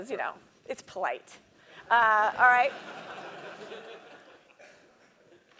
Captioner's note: laugh